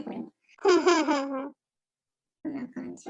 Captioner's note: laughs